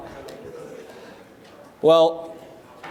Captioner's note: chatter